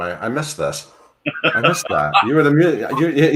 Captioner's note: laughs